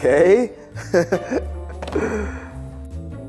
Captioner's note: laughing; mischievous music